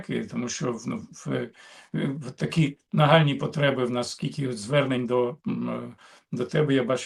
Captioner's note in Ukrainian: прочищення горла